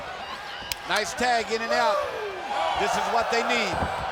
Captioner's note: hands thudding